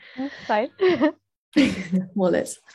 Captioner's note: laughs